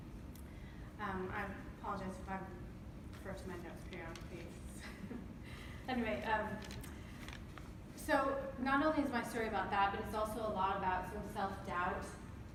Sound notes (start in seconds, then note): 5.2 laughs